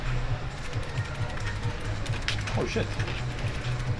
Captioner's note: quiet chatter; keyboard clacking